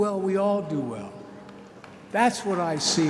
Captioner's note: applause